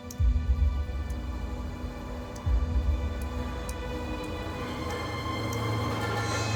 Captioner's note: dripping